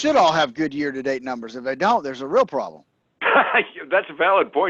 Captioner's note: laughs